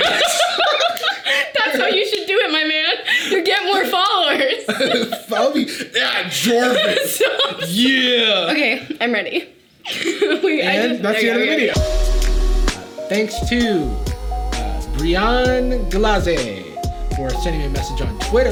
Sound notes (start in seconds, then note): 0.0 both laughing; 7.3 Sadie laughing; 10.1 laughs; 11.7 upbeat music